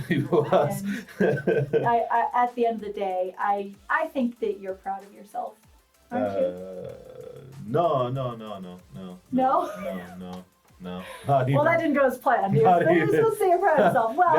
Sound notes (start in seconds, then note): 0.0 laughs; 9.9 laughs